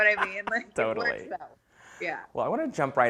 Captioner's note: laughs